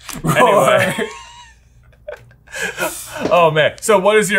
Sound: laughing

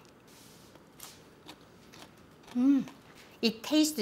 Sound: crunching

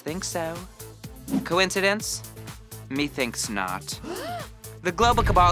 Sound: gasp

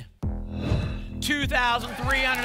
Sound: whoosh

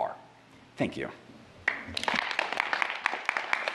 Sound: applause

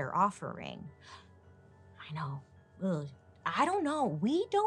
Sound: gasps

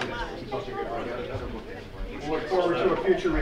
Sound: murmuring

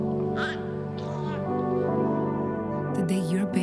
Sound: baby cooing

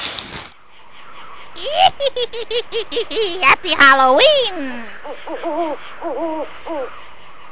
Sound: witch cackles

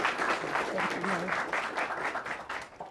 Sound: clapping

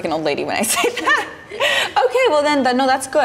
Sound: laughter

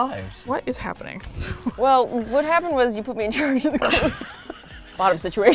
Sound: laugh

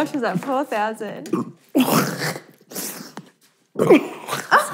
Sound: burping

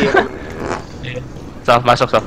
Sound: farts

